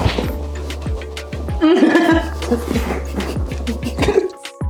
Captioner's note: laughing